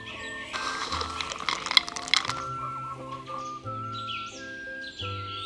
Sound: peanuts rustle

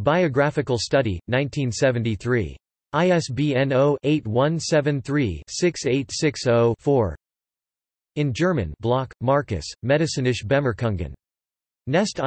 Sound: in German

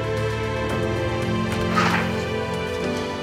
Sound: door opens

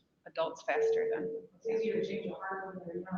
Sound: device beeping

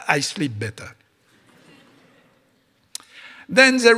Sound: audience laughing

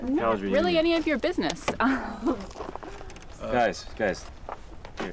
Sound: laughing

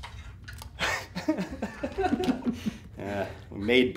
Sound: laughing

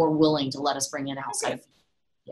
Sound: audio glitch

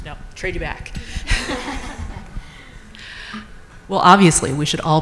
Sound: group chuckles

